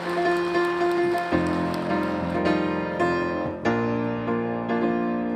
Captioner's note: applause